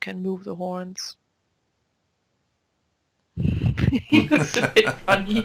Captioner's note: both laugh